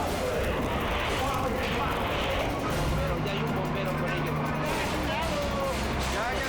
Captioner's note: flames roaring; all shout in Spanish